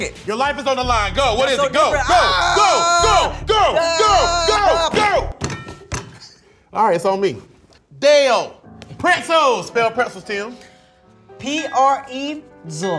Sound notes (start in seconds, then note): 1.9 screaming